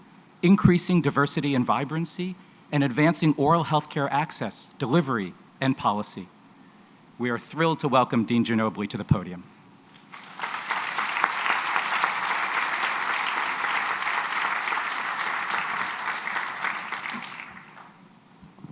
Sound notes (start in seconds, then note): 9.9 applause